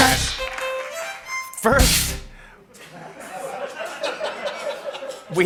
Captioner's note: laughter